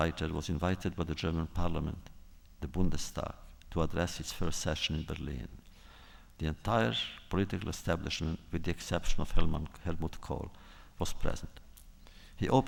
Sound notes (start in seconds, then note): none